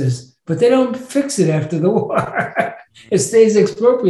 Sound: laughs

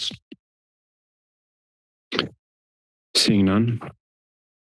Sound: silence

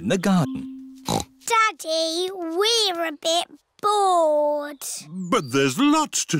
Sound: snorts

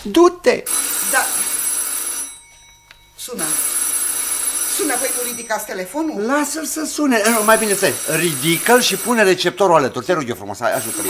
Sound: the phone rings

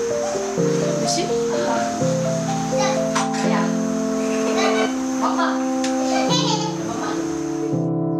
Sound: foreign language

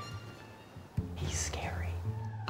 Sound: whispers

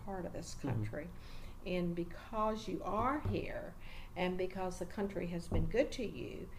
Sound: resumes tapping table

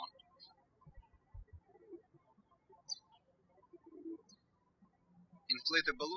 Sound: birds chirping

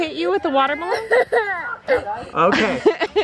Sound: sobbing; laughs

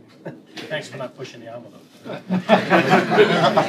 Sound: laughter

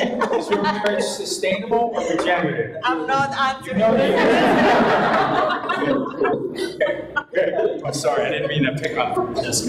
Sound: audience laughs; audience laughs

